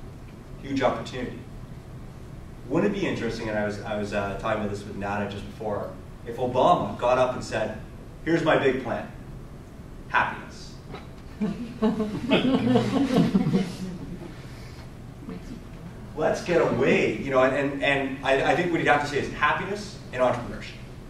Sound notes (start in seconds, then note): 11.3 audience laughter